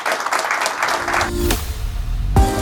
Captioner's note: audience applauding; upbeat music